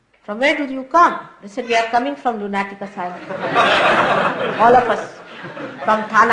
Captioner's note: laughter